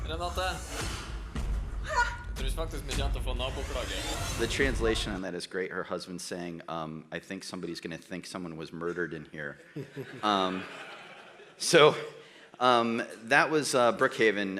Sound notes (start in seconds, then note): 0.2 speaking Norwegian; 9.6 audience laughs